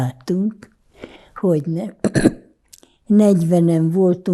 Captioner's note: clears throat